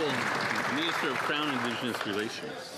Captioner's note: some Applause